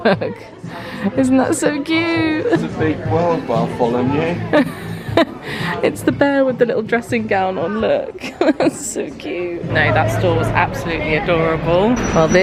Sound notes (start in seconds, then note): 4.4 laughing